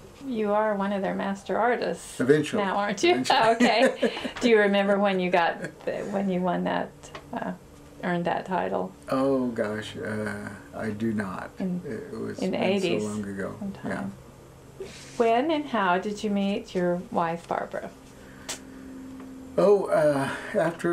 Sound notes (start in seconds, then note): 3.2 laughter